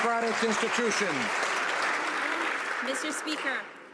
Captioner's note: some Applause